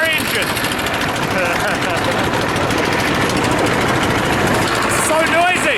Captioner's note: engine spluttering